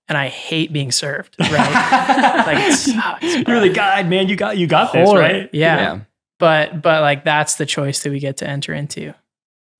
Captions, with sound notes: and I hate being served. (laughs happily) - Man, you got this, right. - Yeah. - Yeah. But like that's the choice that we get to enter into.